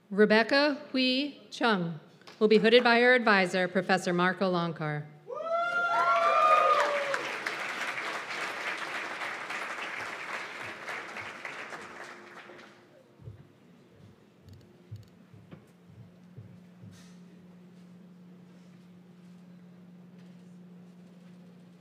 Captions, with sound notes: Rebecca Hui Chung will be hooded by her advisor, Professor Marko Loncar. [CHEERS AND APPLAUSE]